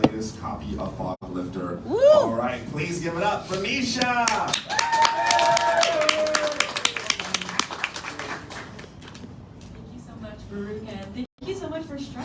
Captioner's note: applause